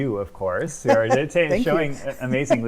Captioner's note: laughs